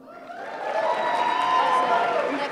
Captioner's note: applause